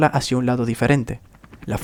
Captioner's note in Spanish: ruido de aspas girando